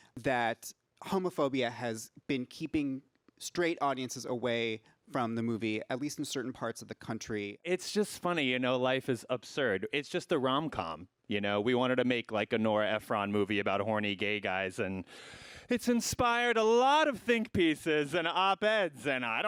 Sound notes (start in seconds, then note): none